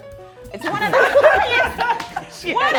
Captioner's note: laughing